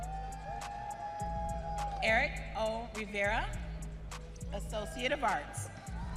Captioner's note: audience cheering